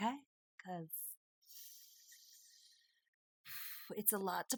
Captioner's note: contemplative exhale; sharp inhale